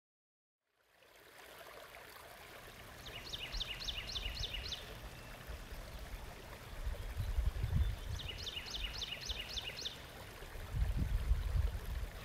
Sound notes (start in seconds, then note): 1.7 stream burbles; 3.0 birds chirping